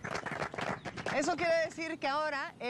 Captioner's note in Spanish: todos aplauden